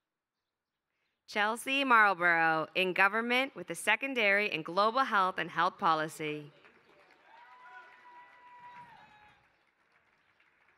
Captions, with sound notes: Chelsea Marlborough in government with the secondary in global health and health policy. [APPLAUSE]